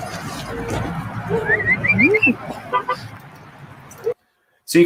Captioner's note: whistling